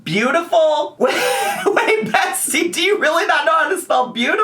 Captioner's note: laughs